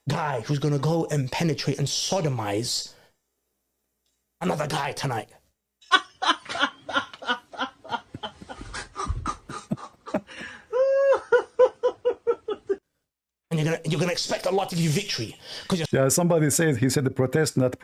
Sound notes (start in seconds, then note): 5.8 Ketawa